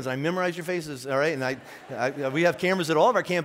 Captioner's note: laughing